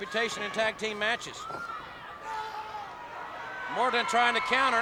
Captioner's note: footsteps plodding; wrestlers grunting